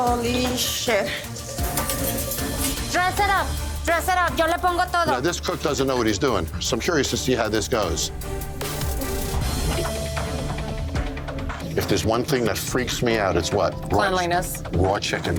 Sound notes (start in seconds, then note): 4.7 cook speaking foreign language